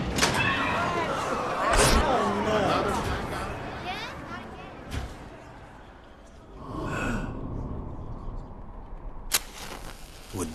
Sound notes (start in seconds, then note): 0.4 people exclaiming; 6.5 sighs